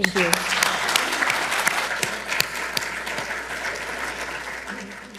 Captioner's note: audience applauding